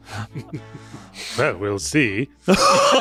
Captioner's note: laughing; laughing